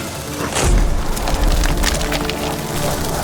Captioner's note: debris falling; explosion